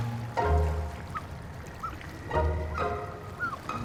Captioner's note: penguins cheep